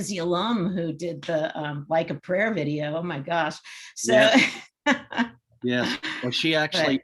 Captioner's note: chuckles